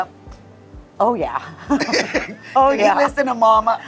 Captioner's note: laughs